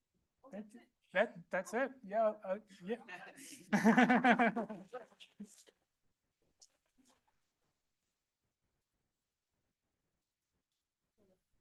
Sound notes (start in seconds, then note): 3.6 laughter